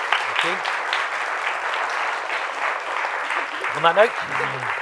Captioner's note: applause